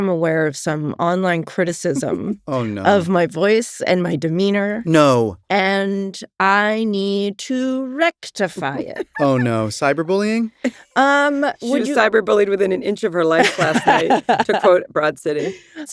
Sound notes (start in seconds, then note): 8.5 laughs; 13.3 laughs